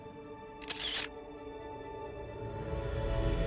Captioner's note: camera clicks